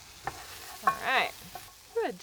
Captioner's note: stirring mixture